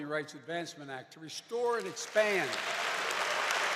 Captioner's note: applause